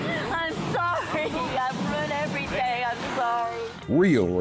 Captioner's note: crying